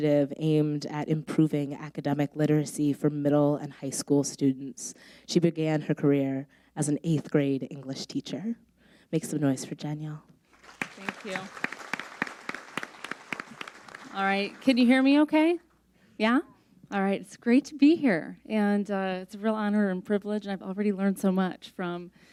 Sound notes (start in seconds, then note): 12.2 audience applauds